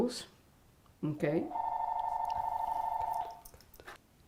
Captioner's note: phone ringing